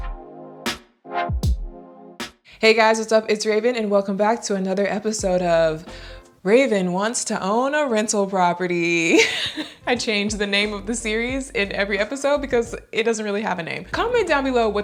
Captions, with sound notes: - Hey guys, what's up? It's Raven, and welcome back to another episode of Raven wants to own a rental property. (laughing) I change the name of the series in every episode because it doesn't really have a name. Comment down below